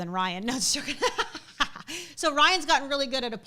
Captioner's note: laughs